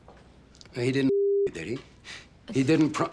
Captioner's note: scoffs